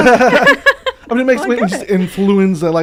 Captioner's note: laughing